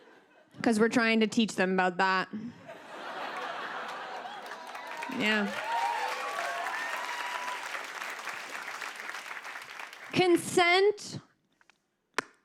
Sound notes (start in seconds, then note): 3.2 cheers and applause